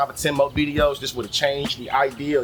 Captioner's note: birds Chirping